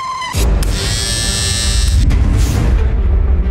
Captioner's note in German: Elektrischer Haarschneider